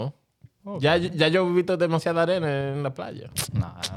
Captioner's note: speaking In Foreign Language